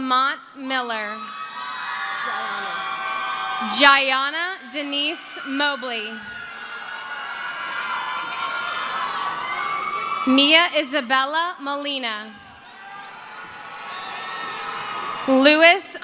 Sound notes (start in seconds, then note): 6.0 screaming; 7.2 cheering